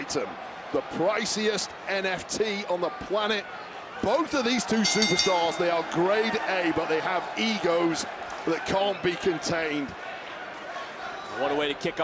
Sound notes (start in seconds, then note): 4.7 bell rings